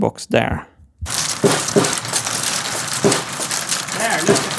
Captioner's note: machine sounds